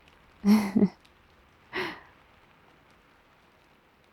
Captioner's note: laughs